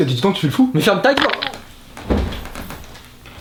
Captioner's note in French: coup et craque